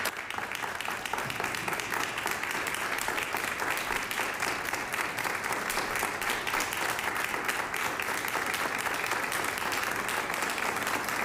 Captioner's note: applause